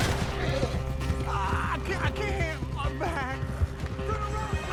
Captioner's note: grunts